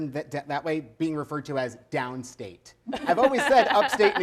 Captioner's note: laughs